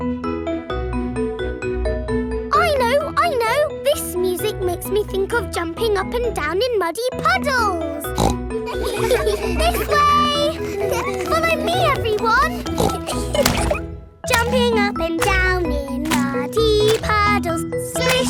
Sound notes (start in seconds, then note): 0.2 gentle upbeat playing; 8.0 snorts; 8.7 giggles; 13.2 snorts; 13.7 giggling